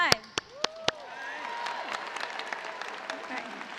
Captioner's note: cheers and applause